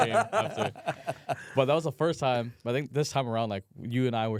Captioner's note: laughs